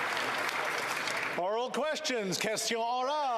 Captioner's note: applause